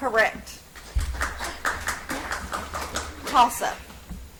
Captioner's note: audience applauds